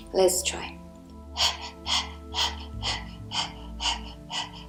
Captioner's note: panting loudly